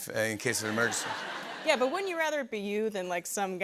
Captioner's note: laughter